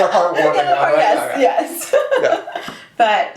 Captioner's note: laughs